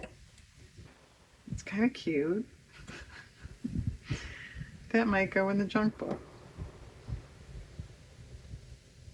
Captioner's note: laughs